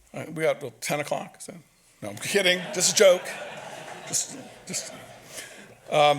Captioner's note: audience laughs